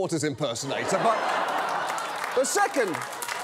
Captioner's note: laughter